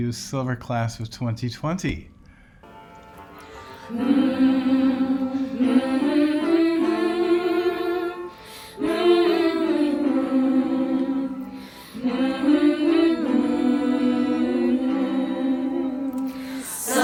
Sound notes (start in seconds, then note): 3.8 humming